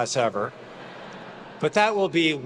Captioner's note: attendees laughing